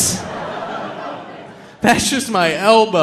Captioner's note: audience laughing